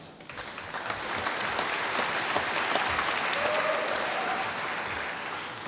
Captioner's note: applause